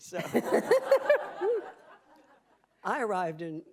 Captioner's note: audience laughing